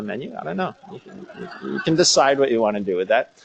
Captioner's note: laughter